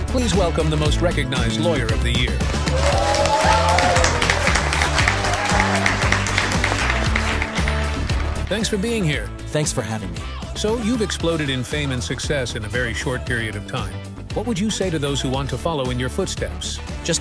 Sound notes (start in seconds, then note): 2.4 audience clapping